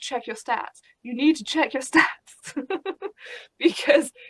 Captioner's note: laughs